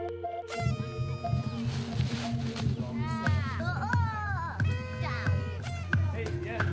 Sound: light electronic music; party horn blowing; people chattering

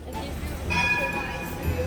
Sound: tram sound

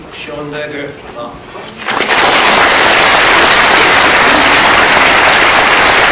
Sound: applause

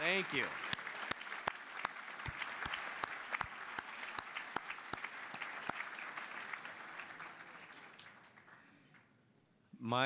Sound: applause

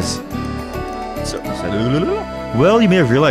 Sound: tongue lashing noises like a tape being rewound

